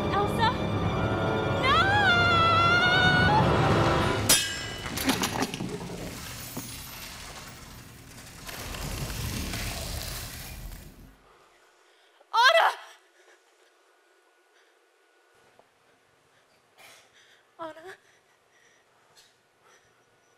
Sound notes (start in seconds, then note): 4.3 sword clinks; 4.8 ice crackling